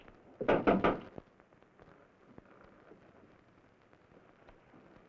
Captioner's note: knocking on door